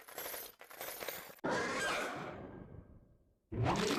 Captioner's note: roars